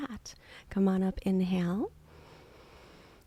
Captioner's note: inhaling